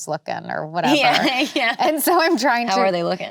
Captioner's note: laughs